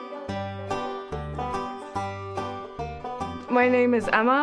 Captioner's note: indistinct chatter